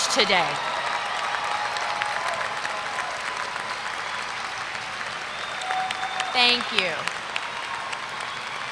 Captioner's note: applause